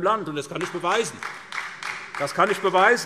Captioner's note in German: Beifall SPD